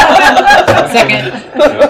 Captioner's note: laughing